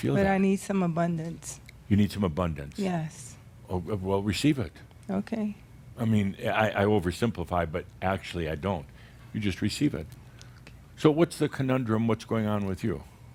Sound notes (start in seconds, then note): 10.3 whispers